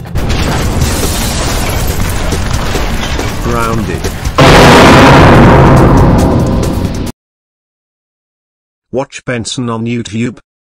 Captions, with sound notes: *loud crash* *intense rock music at double speed* grounded. *intense rock music at double speed* *loud dramatic sound* *intense rock music at double speed* watch benson on youtube